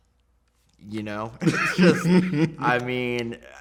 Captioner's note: laughs